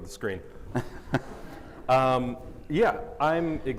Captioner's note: everyone chuckling